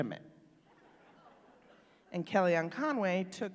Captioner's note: laughter